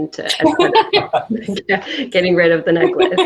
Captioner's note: laughing